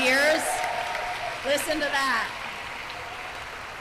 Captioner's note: applause